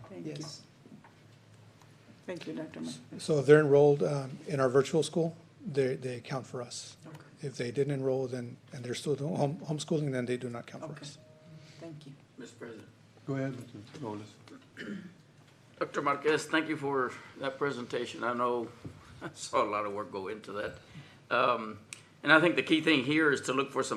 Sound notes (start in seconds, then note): 14.5 clears throat